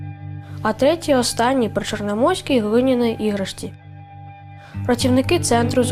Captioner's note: speaking in foreign language